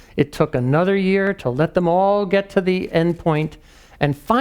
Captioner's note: none